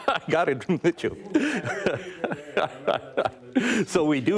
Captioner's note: laughs